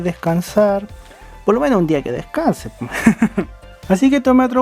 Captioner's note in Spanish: risas